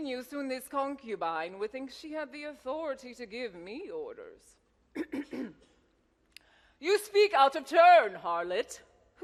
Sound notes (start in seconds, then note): 4.9 Hatshepsut clears throat